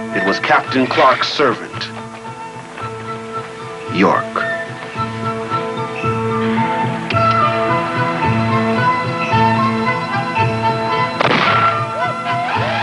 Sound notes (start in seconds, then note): 4.8 peppy music; 6.7 tongue clicking; 11.2 gunshot; 12.0 cheering and laughing